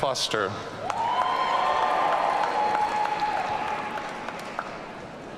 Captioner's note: audience cheering